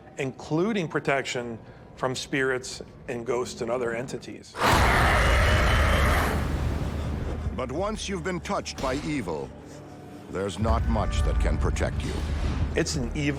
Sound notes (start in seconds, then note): 4.6 growling